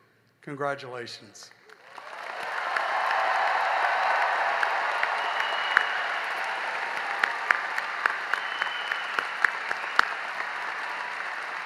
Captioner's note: cheering and applause